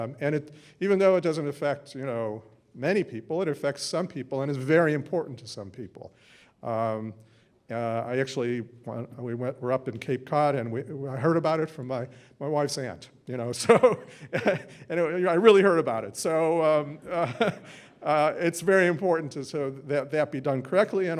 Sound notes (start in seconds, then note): 13.7 laughs